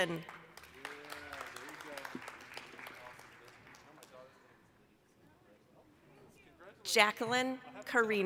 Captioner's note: applause